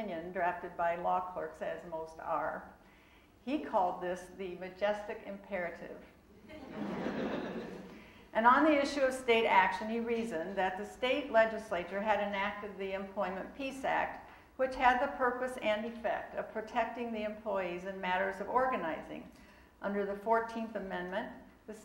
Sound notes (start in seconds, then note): 6.4 audience laughing